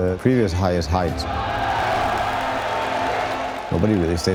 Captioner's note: crowd cheering